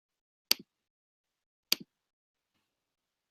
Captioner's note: clicking